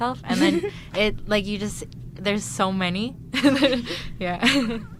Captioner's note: laughs